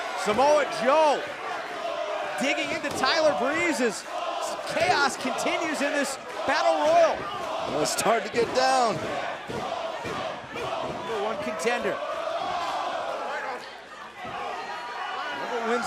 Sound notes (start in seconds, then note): 10.8 fans chanting